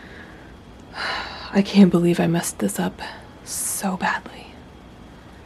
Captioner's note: sigh